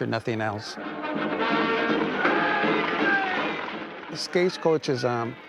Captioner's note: dramatic music; men yelling